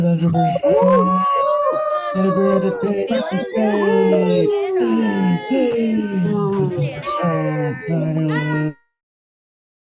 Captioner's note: cheering